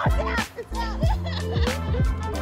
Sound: laughs

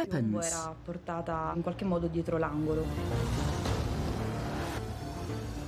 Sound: speaking in Italian

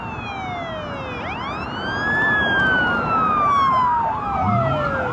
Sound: police sirens alarming

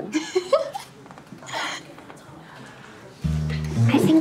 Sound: laughs

